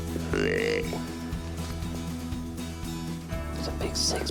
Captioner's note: animal calling